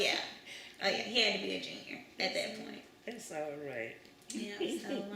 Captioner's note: laughs